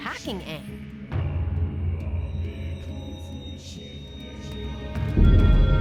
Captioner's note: chanting